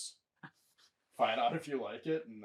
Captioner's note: chuckling